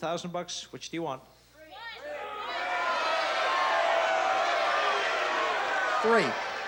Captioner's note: crowd clamoring